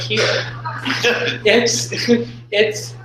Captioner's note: laughter